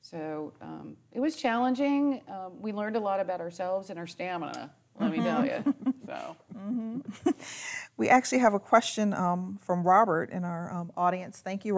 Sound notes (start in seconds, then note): 5.1 chuckling